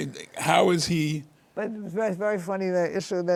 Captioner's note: laughs